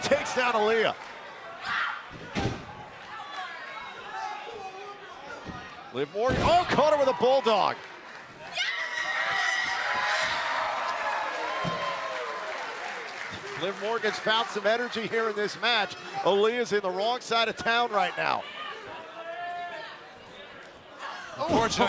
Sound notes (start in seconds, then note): 12.0 cheers and applause